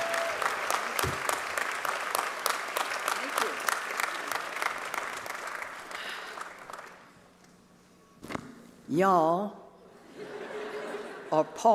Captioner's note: cheers and applause